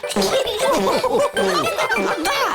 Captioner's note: giggles; laughter